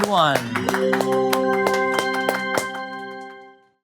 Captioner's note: people applauding